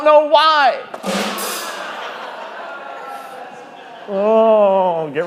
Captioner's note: group laughing